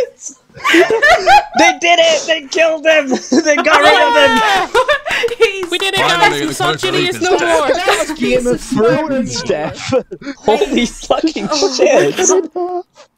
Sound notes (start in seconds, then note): 0.5 laughter